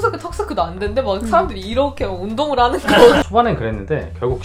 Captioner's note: laughing